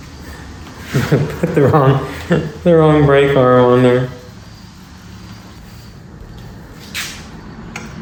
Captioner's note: laughter